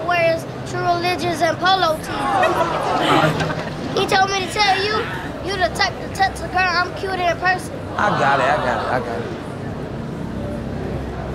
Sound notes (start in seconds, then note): 2.0 crowd laughs